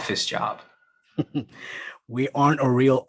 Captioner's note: Boss chuckling